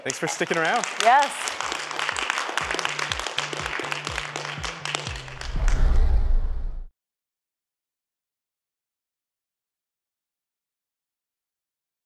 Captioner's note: applause